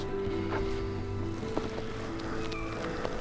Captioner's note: elk bugling